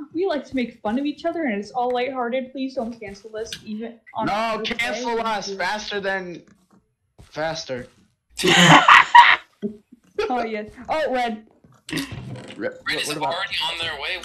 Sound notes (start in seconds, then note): 8.4 laughs